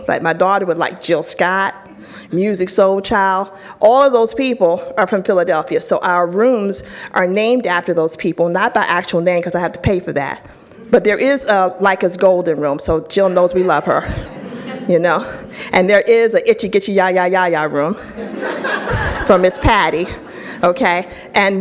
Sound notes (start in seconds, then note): 18.0 audience laughs